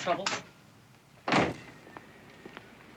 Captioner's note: door closes